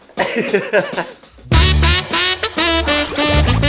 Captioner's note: funky music; laughs